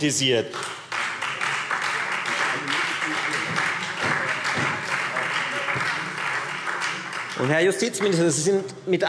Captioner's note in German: Beifall Freie Demokraten und SPD